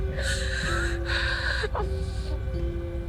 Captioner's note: sobs